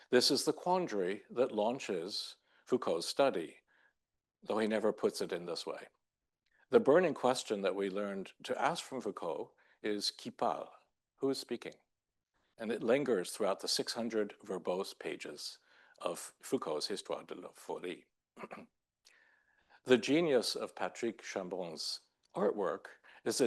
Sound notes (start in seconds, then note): 9.8 speaks in foreign language; 17.0 speaking French; 18.4 clears throat